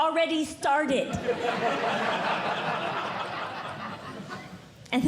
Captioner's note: audience Laughing